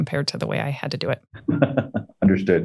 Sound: chuckles

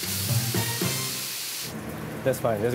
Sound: sizzling

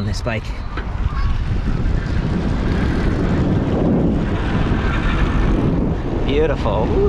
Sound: wind gushing; bike motor rumbling

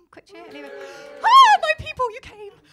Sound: cheering

